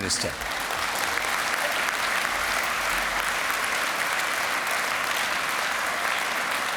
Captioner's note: applause